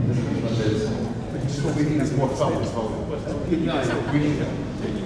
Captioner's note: background chatter